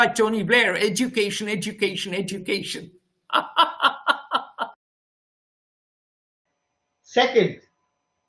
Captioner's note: laughs